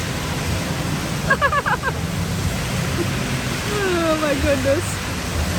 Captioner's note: laughs